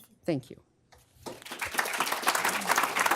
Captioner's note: applause